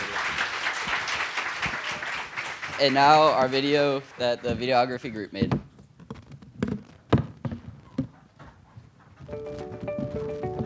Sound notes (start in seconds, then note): 5.0 applause